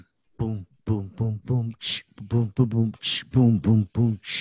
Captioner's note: beatboxing noises